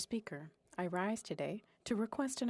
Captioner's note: speaking FRENCH